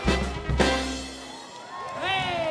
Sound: audience applauding

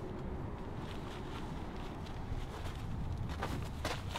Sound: wind blowing

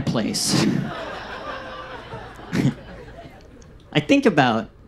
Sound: audience laughs

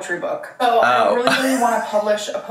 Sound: laughs

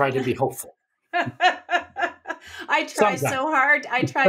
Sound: laughs

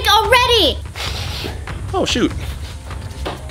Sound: sniffing

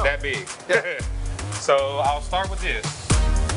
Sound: laughs

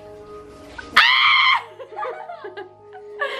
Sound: screams; laughs

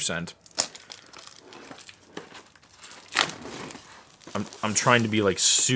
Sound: crinkling and ripping plastic

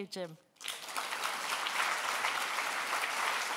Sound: applause

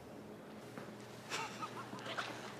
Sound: laughs

